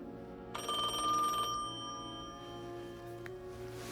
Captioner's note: phone ringing